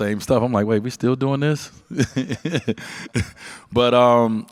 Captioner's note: laughs